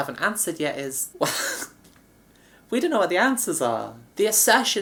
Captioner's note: laughs